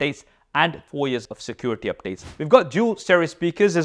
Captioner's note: air whooshes